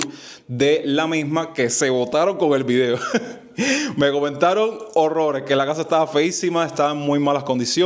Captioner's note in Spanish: risas